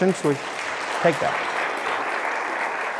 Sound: audience applause

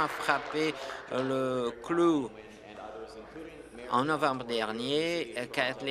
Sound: applause

